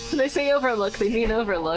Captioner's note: laughing